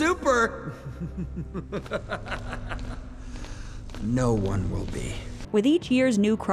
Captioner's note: evil laughter